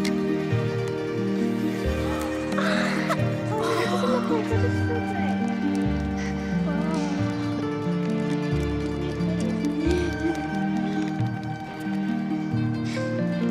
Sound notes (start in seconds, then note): 2.1 gasps